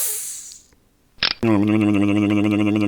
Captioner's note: clank; hiss; click